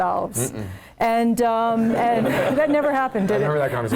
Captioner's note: laugh